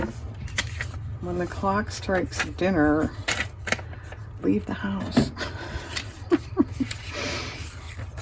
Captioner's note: laughs